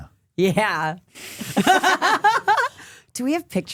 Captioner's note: laughing